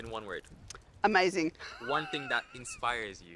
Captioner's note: laughs